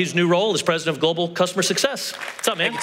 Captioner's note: applause